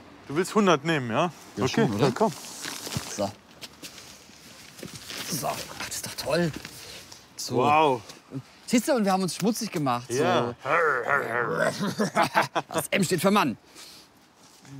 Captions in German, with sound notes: Du willst 100 nehmen, ja? Okay, dann komm. So. (ächzt:) So. Ist doch toll. Wow. Und wir haben uns schmutzig gemacht. - Ja. (Männliche Laute, Lachen) Das M steht für "Mann"!